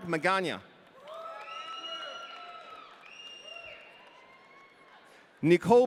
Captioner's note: audience cheering